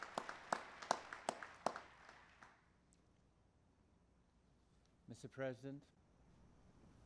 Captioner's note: applause